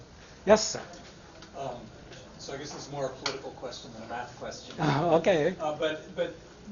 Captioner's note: chuckles